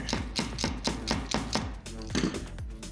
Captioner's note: screwdriver end slamming into toothpicks and board